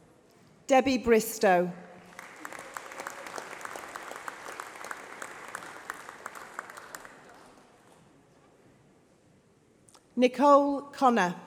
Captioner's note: applause